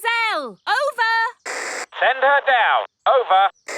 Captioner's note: walkie-talkie crackles